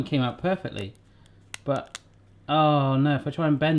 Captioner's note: creaks